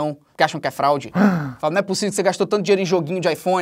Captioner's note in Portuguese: faz som de surpresa